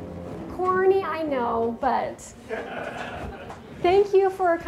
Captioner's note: dramatic music; audience laughing